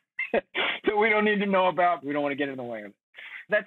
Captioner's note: chuckles